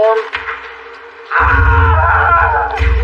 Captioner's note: screamsn